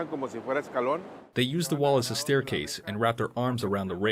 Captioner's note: through translator